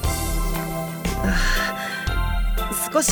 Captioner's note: awkward sigh